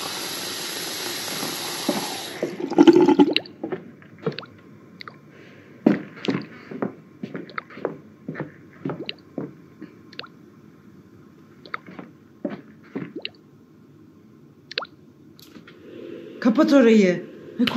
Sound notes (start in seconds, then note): 5.5 footsteps; 8.9 dripping water sound